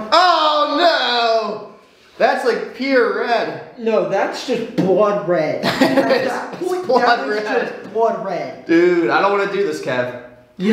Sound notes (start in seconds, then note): 5.6 laughs